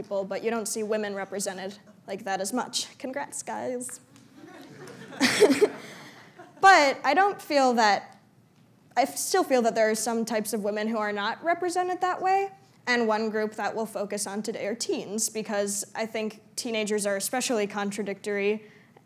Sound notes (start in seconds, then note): 4.2 laughter